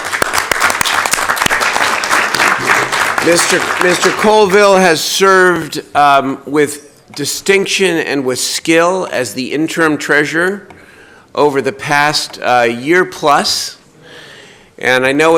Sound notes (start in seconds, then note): 4.2 applause